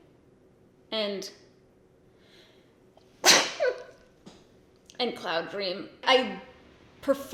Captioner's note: sneezes